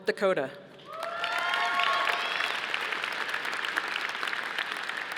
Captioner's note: audience applauding